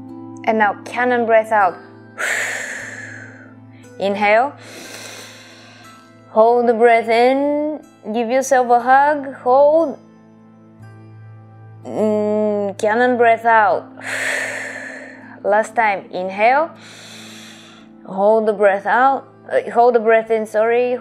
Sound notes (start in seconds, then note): 2.1 exhaling; 4.6 inhaling; 14.0 exhaling; 16.8 inhaling